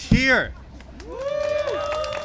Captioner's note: applause and cheering